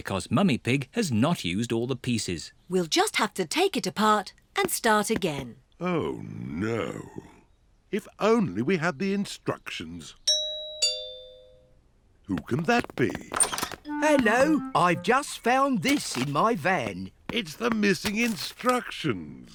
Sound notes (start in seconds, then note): 8.1 doorbell rings